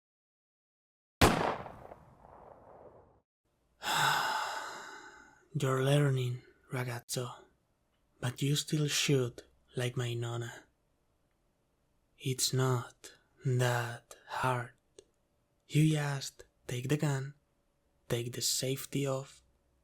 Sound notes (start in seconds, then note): 1.2 sound of g*nsh*t; 3.8 sigh